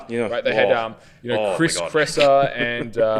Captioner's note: laughs